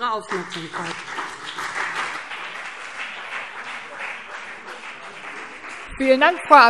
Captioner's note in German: Beifall BÜNDNIS 90/DIE GRÜNEN und vereinzelt CDU